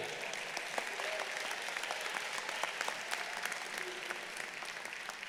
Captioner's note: audience applauding